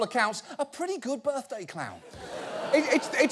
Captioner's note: audience laughing